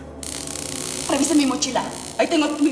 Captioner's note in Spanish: Sonido de la carga eléctrica